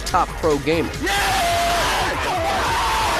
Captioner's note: cheering